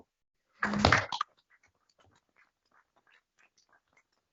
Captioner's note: applause